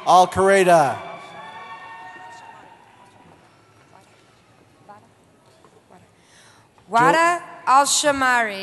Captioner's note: cheering